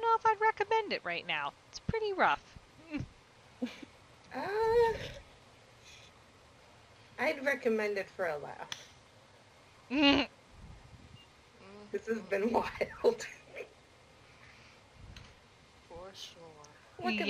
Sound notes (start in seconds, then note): 12.9 she cackled